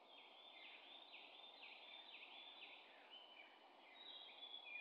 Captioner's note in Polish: śpiew ptaków